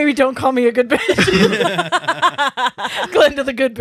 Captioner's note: laughing